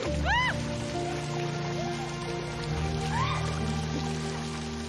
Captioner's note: laughing, screamaming